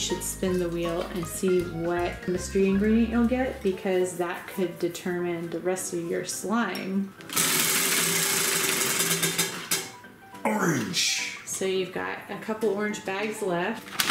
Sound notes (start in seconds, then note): 7.3 wheel spinning